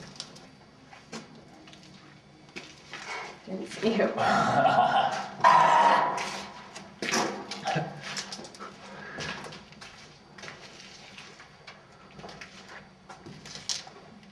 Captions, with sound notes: Didn't see you. (chuckling) - Ah!